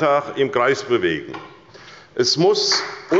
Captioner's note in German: Beifall bei Abgeordneten der SPD